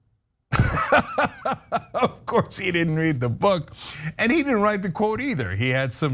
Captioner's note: laugh